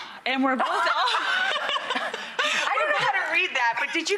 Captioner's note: laughter